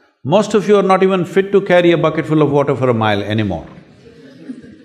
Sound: laughter

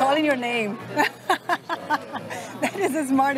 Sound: laughs

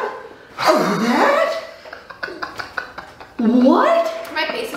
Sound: laughs

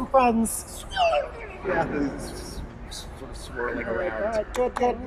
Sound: hissing and vocalizing

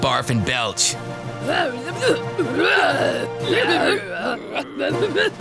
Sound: grumbling

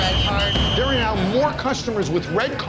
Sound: whistle blows

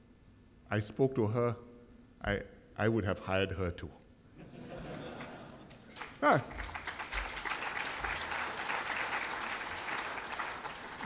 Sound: applause

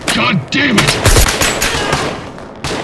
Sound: suppressed carbine fire

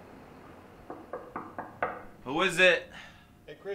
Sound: knocking on door

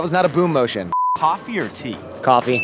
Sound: electronic beep

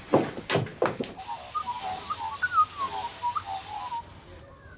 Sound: birds chirp

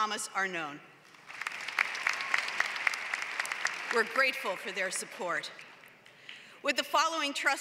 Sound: applause

